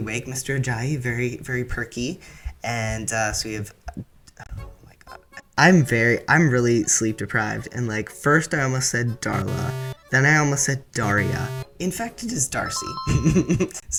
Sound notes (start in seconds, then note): 9.4 fail buzzer; 12.6 correct answer ding-ding